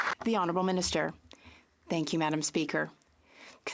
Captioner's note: some Applause